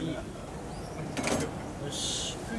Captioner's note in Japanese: 受話器を置く音